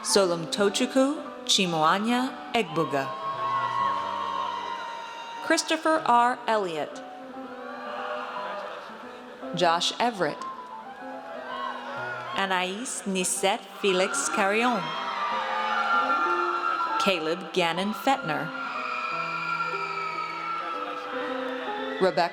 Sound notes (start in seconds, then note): 2.5 audience cheers; 7.4 audience cheers; 10.9 audience cheers; 14.9 audience cheers; 18.7 audience cheers